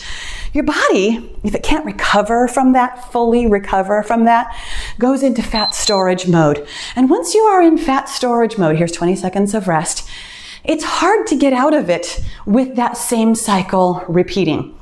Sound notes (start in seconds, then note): 5.5 timer beeps